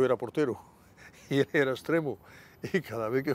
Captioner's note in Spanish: Ríe